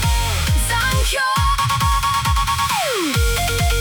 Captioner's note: echoes